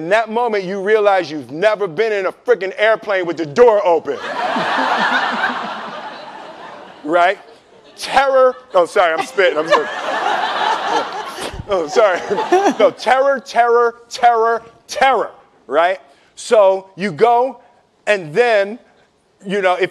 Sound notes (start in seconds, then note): 4.2 laughing; 11.3 spitting